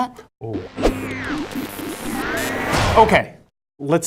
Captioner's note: static sound effects